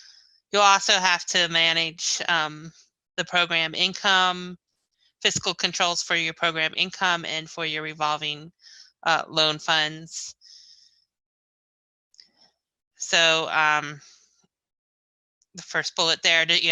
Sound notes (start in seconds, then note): none